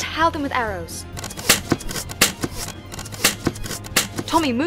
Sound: arrows thwip; shouting

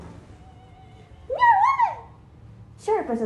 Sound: mocking

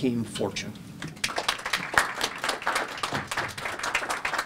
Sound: audience clapping

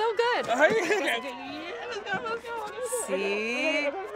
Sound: Mani laughs

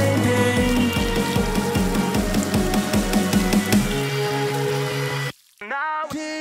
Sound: pissing sounds

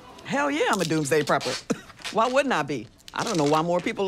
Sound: scoffs

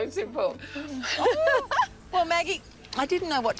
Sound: laughter

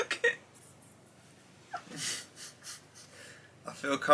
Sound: laughs

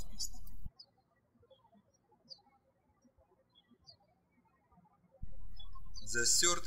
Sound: birds chirping

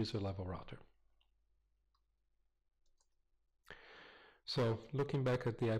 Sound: pause

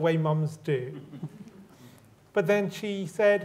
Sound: crowd chuckling

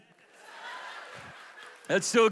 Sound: audience laughs

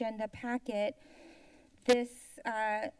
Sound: inhales

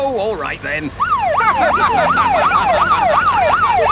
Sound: siren wailing; laughing

